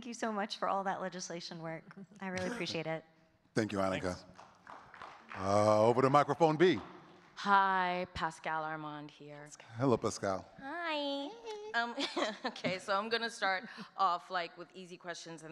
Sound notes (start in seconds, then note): 4.0 audience clapping; 11.8 chuckles